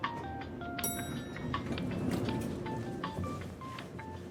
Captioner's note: elevator dings